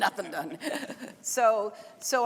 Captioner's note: laughing